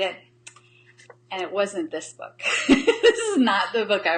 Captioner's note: laughs